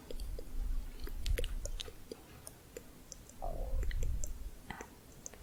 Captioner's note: tongue clicking